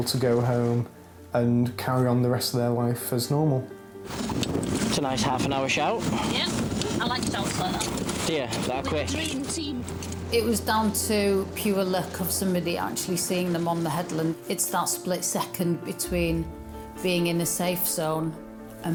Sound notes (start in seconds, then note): 4.0 uplifting instrumental music; 4.0 object rattling